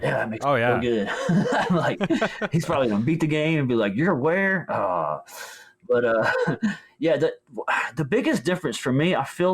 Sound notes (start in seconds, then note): 0.9 laughs; 6.0 groans